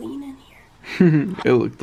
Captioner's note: chuckles